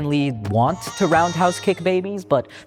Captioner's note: babies crying